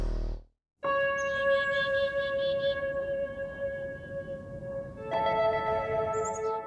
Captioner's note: birds chirping; bright music